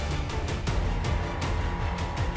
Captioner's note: none